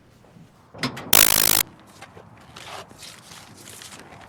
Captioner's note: door clicking